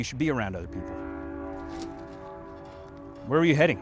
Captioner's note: train horn blowing faintly